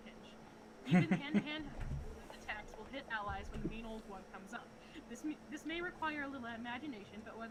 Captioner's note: chuckles